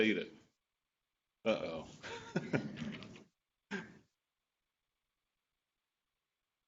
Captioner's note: laughs